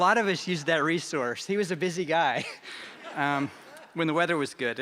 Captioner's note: laughter